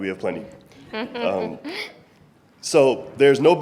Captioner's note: laughing